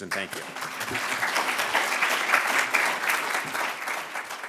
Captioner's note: applause